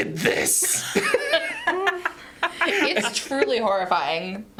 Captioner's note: laughing